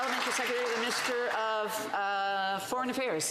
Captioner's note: some Applause